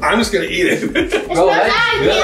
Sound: laughing

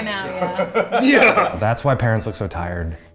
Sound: laugh loudly

